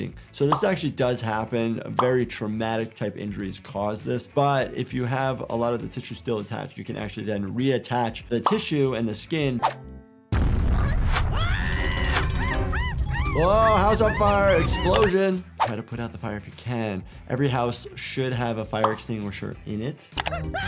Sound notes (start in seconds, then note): 10.3 explosion booming; 10.6 Handy screaming; 20.4 Handy screaming